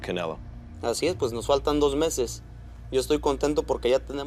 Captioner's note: speaking Spanish